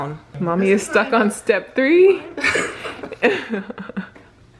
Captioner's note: laughs